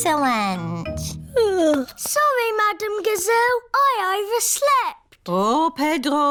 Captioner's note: yawns